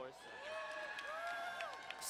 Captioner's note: crowd cheering and applauding